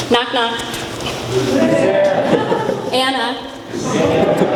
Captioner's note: crowd